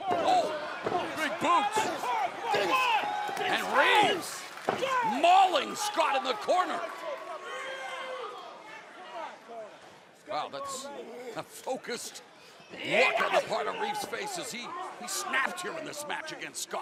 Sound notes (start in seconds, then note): 0.0 crowd cheering; 8.4 crowd chatter